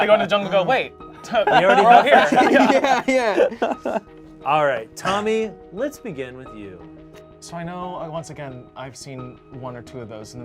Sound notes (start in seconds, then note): 0.0 group laughs